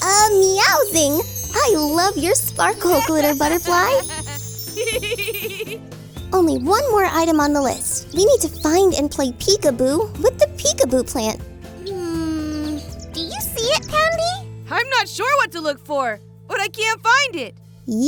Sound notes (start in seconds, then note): 2.8 laughs